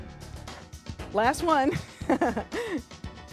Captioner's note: upbeat music; laughs